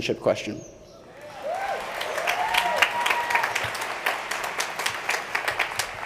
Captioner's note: applause